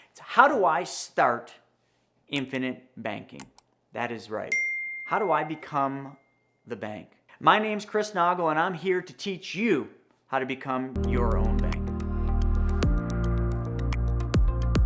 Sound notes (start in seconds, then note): 4.5 bell dinging; 10.9 ambient music